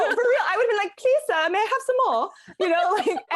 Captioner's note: british Accent